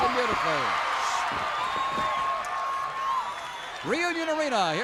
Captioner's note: crowd cheers